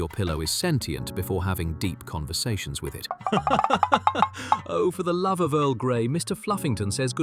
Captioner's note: laughing